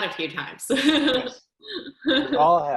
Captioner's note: chuckling